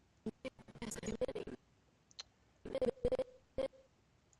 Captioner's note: audio skipping